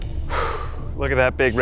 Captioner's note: exhaling sharply